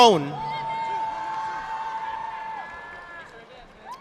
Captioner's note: audience applauding